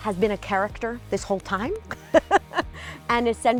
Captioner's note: laughs